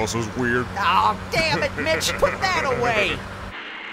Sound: laughter

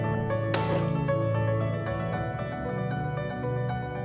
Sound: thuds

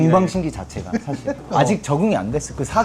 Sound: laughing

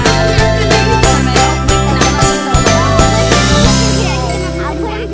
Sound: kids talking in background; upbeat folk music

